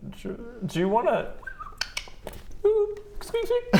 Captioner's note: whistle clickclick pffp ooop!